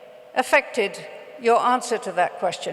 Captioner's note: none